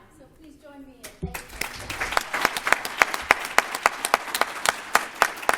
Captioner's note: applause